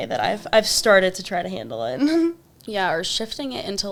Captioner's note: chuckles